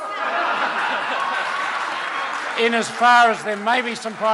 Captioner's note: laughter